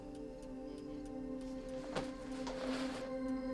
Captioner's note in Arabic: تنهدات